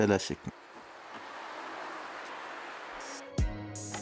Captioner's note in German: Rauschen